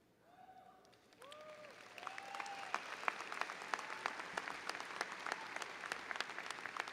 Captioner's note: audience cheering and applauding